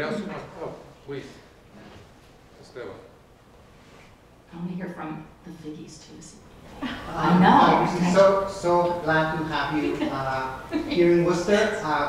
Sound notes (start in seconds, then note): 6.7 audience laughs